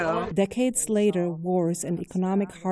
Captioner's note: voice-over